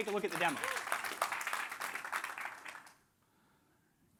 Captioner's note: applause